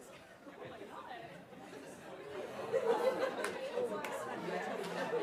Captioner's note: audience talking indistinctively